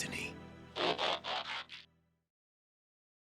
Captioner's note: transformer transforming noise